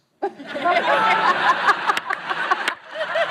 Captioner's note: laughter